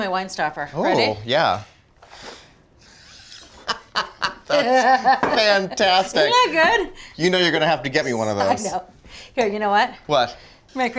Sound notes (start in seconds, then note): 3.1 chuckling